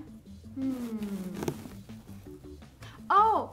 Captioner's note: puppets hum